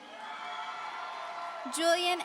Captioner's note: audience cheering